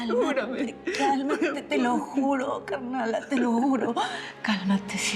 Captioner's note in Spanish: sollozos